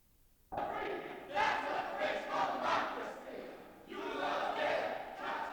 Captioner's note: protesters chant